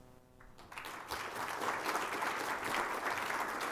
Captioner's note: applause